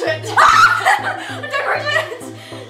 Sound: screams

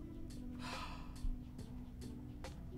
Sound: Efosa gasps

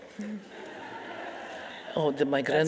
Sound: audience laughing

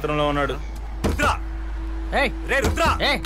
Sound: door knocks

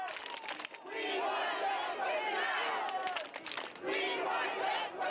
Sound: chanting

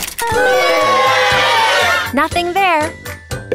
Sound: audience booing

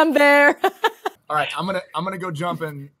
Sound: laughing

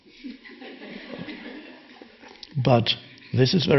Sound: audience laughing

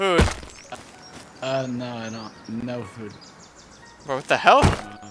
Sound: American accent

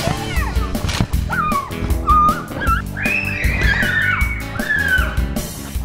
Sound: children screaming

